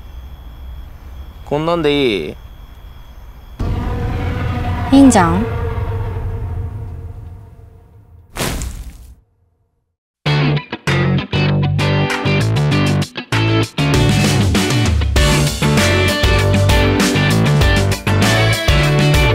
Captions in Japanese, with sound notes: こんなんでいい? いいんじゃん? （土をスコップで掘ってかける音）